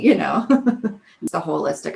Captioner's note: laughing